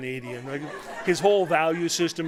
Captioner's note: laughter